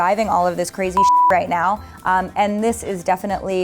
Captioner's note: beep